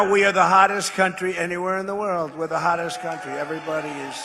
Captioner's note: applause